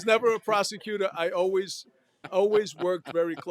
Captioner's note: laughter